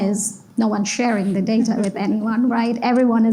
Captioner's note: laugh